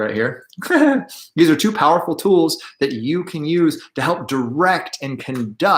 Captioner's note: chuckles